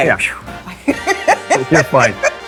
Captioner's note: laughing